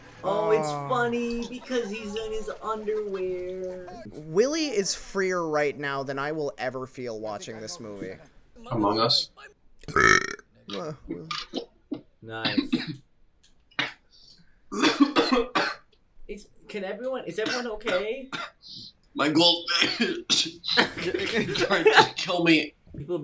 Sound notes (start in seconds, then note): 9.8 burps loudly; 12.4 coughs